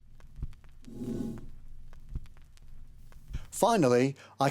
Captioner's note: text whooshes